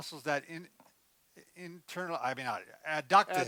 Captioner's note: stammers